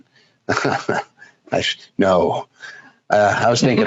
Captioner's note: chuckles